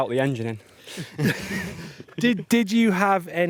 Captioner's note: all laughing